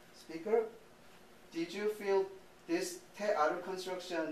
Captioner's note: speaking japanese